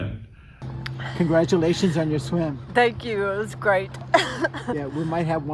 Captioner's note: laughter